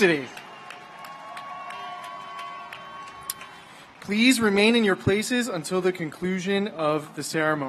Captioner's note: cheers and applause